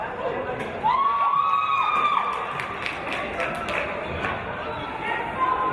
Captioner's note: cheers from audience